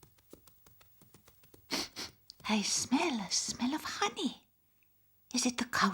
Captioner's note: sniffing